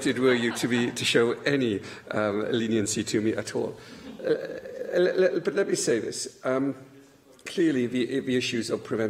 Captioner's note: laughter; laughter